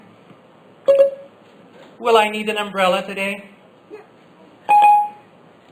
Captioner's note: Siri beep